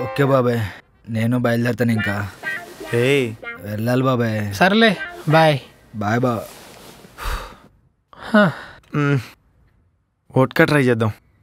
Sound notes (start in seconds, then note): 7.1 sighs